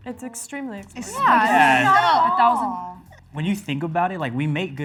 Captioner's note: all chatter in agreement